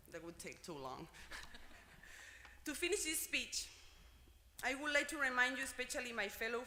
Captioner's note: laugh